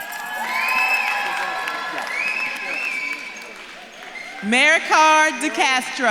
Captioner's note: audience claps and cheers